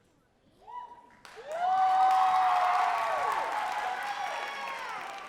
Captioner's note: crowd cheering and clapping